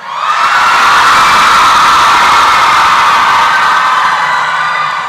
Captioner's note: applause and cheering